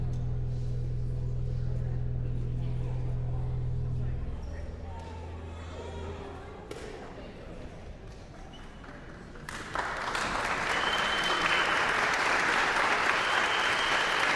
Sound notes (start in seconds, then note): 5.0 guests continue chattering; 8.6 guests applauding